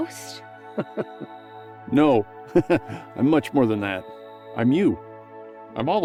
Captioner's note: chuckles